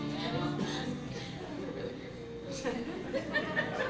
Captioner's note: laughs